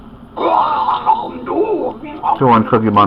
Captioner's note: munching noisily